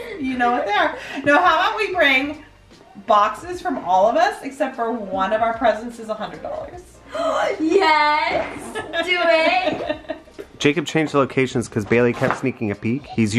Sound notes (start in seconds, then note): 7.0 gasps